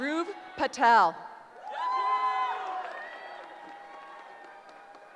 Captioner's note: cheering